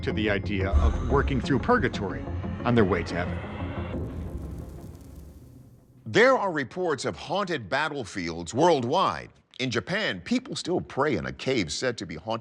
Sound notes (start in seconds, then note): 3.9 suspenseful music; 3.9 whoosh